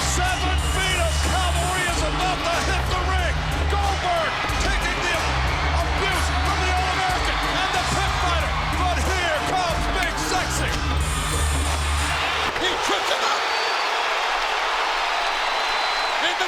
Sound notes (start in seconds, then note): 12.8 crowd cheers